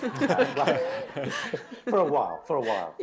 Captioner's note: laughter